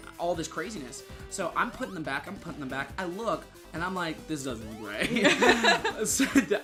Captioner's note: both laughing